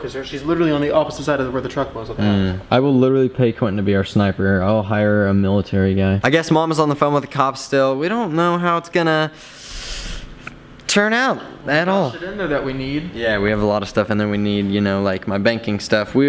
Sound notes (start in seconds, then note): 9.6 random mouth sounds